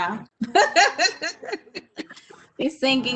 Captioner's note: woman laughs